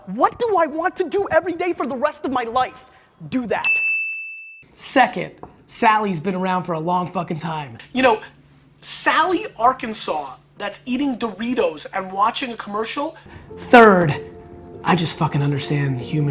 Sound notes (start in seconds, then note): 3.9 bell dings; 13.2 sentimental music